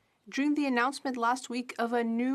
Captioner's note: speaking French